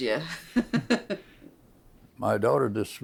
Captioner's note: laughs